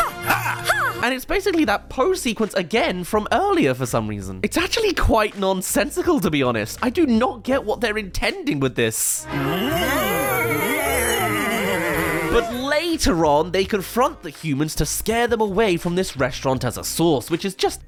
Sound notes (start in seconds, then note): 9.3 hahaha!